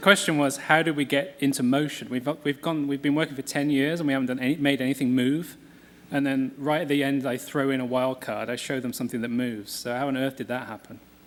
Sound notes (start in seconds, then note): none